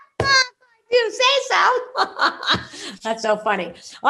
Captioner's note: laughs